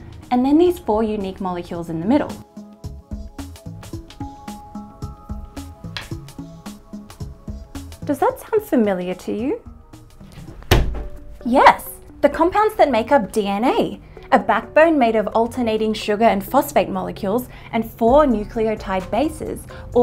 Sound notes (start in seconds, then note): 2.6 introspective music; 10.3 hand thumping